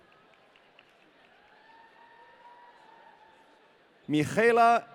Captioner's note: audience cheering